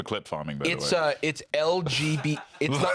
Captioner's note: laughs